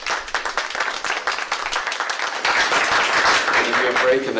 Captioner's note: applause